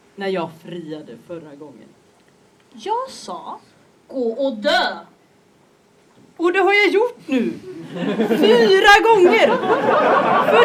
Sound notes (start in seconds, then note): 7.7 audience laughs